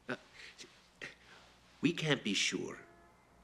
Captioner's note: chuckles